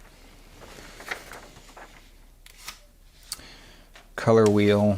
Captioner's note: pages flapping